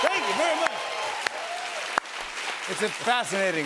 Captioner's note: cheers and applause